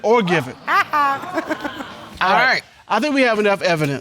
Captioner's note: chuckles